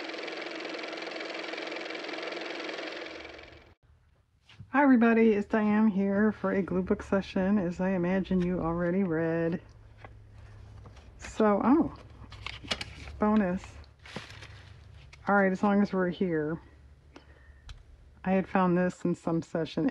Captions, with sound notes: (car motor) hi everybody it's Diane here for a glue book session as I imagine you already read so-- oh bonus all right as long as we're here, I had found this in some session,